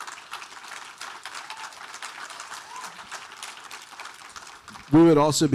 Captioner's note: audience cheering; audience applauding